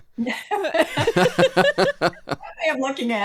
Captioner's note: laughter